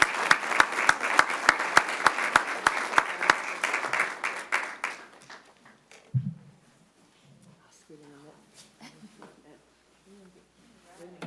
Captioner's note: applause